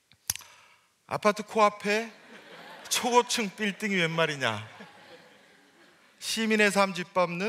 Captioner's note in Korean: 웃음